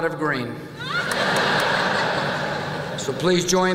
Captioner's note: laughter